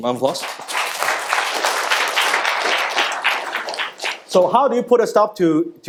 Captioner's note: audience clapping